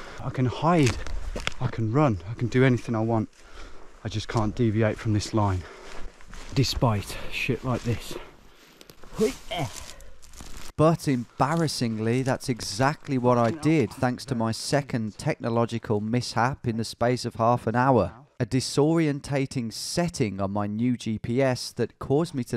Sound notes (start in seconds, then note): 10.9 voiceover